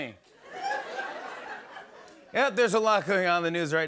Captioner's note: laughter; normal voice